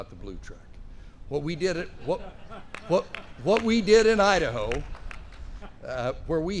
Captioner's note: laughter